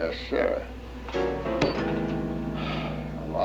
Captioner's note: sighs